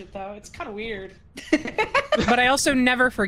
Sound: laugh

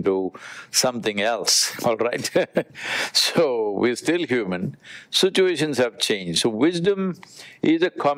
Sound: laughs

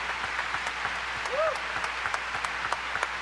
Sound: applause

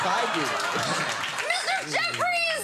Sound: audience laughing

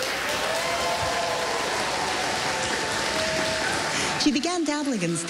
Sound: cheering, applause

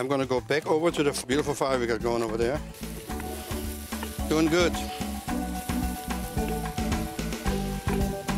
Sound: sizzling

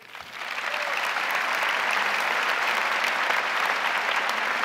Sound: crowd applauding

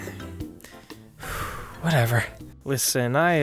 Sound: sigh

